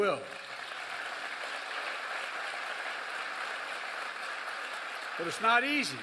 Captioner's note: applause